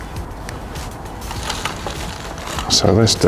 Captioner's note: compost rustling